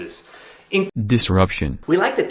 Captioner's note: automated Voice